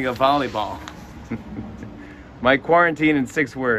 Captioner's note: chuckles